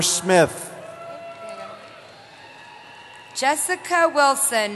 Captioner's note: cheering